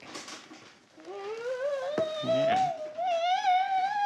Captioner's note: whines